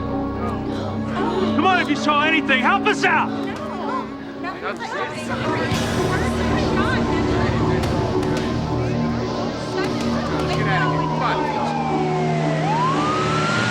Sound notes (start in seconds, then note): 0.1 crowd murmuring "no"; 3.9 crowd murmuring "no"; 6.5 indistinct chatter; 10.6 sirens blaring